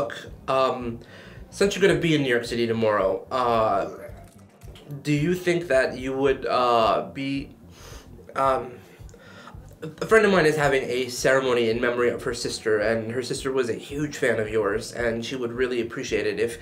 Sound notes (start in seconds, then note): 3.7 Sebastian puking